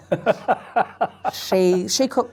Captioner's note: laughs